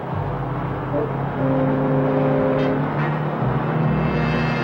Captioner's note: truck engine whirring